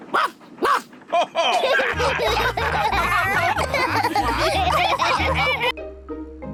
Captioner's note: barks; all laugh